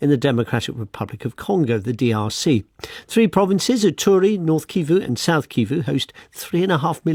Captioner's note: none